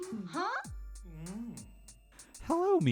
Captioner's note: mmmmmmmmmmm